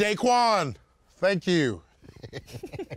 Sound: both laugh

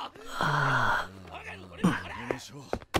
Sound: panicking in the background

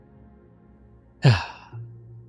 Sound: sighs

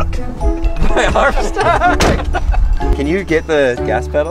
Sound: laughing

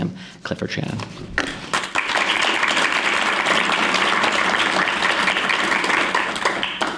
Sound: applause

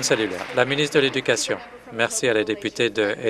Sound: applause

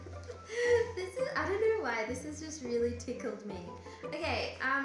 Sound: laughs

